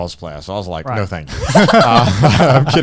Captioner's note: laughing